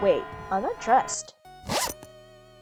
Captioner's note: zip up sound effect